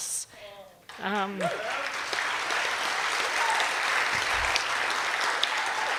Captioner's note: cheers and applause